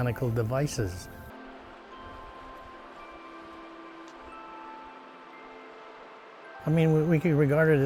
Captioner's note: sound of river and music